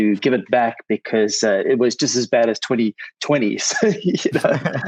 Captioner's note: laughs gently